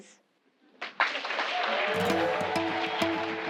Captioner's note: applause